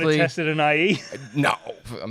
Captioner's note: laughs